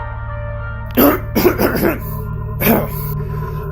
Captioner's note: clears his Throat